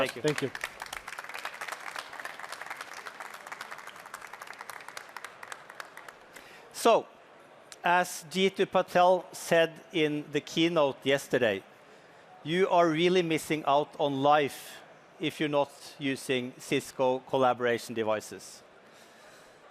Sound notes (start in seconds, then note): 7.6 applause